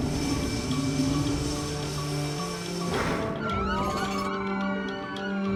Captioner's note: sirens blaring